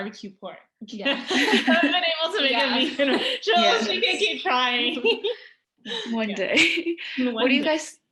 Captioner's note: laughter